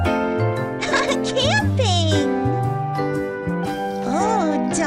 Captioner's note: giggling